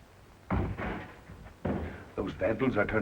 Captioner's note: thudding